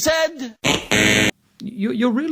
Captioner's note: buzzing